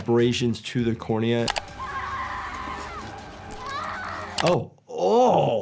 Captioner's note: computer mouse clicks; woman screaming